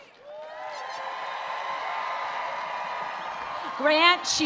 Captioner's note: attendees applauding and cheering